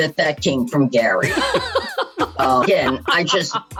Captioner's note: laughs